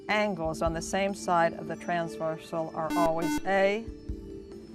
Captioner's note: buzzer